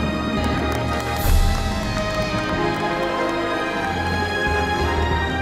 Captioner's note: cheering